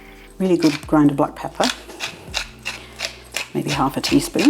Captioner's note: pepper mill grinding